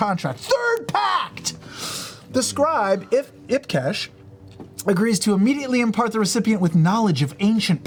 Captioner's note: big inhale